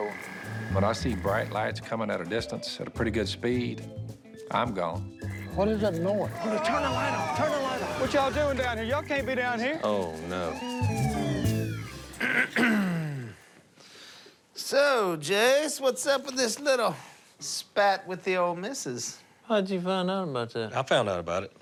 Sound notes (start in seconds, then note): 4.9 sirens; 10.1 sirens; 12.2 clears throat